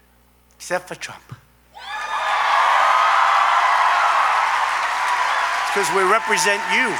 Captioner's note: applause